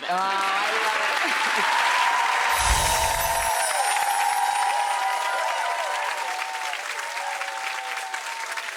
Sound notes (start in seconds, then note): 1.1 audience applauds and cheers; 2.5 chimes ring